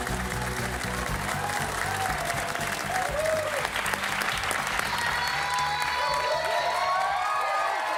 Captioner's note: cheers and applause